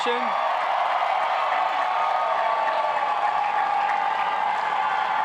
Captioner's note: cheers and applause